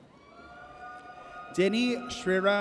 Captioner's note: audience cheers